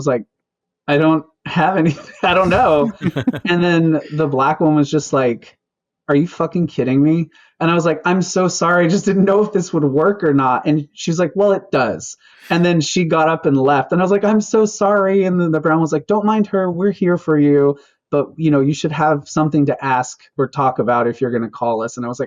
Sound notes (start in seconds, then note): 1.8 laughter